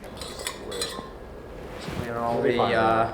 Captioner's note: metal clinks softly